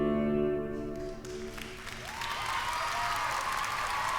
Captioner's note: applause